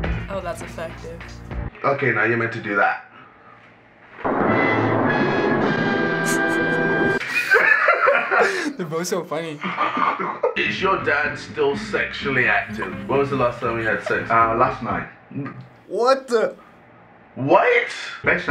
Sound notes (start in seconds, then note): 4.1 dramatic riff; 4.1 snickers quietly; 7.1 laughter